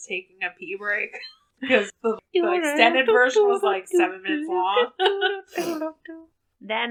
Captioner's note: laughs